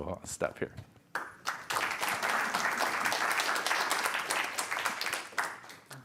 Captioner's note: applause